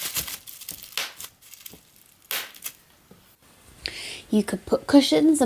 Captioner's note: bubble wrap popping; bubble wrap rustling